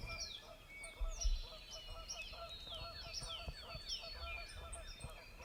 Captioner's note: birds chirping